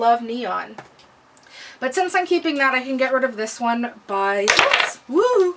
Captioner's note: polish drops and makes huge noise